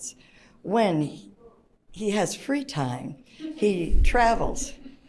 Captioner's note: audience chuckles